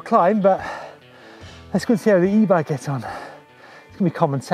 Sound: murmurs

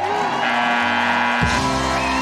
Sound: buzzer buzzes; crowd cheers

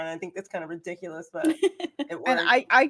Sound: laughs

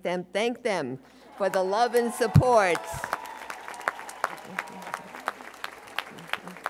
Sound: audience cheering

